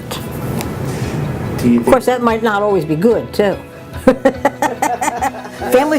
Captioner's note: laughter